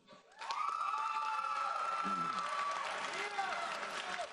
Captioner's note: audience applauds